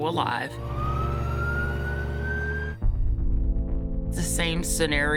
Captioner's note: siren blaring